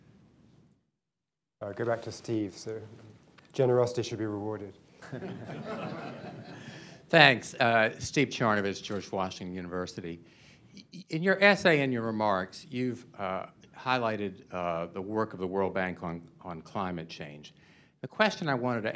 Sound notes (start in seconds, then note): 5.0 laughter